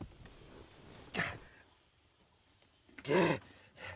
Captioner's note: groaning